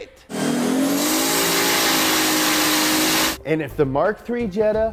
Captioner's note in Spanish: revoluciones del motor